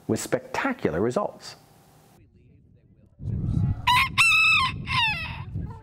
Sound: rooster crows

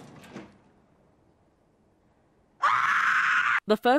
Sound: screams

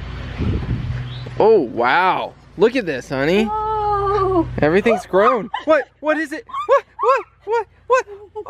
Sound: shrieks

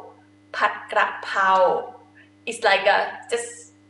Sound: talking in foreign language

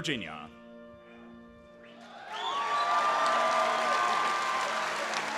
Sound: applause and cheering

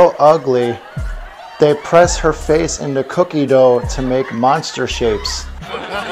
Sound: laughter

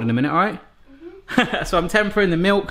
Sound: laughs

